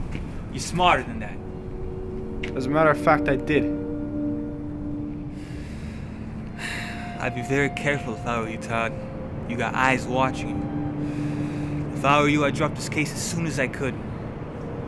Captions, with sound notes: You're smarter than that. As a matter of fact, I did. (sighs) I'd be very careful if I were you Todd. You got eyes watching you. If I were you, I'd drop this case as soon as I could.